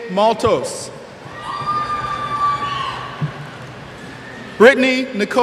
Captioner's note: cheers